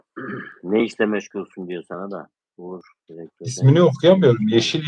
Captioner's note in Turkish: boğazını temizler